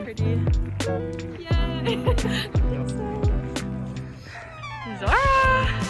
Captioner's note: laughs